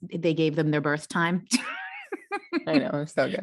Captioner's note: laughs